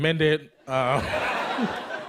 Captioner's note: laughter